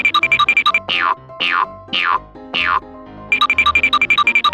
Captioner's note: futuristic zinging; boinging; futuristic zinging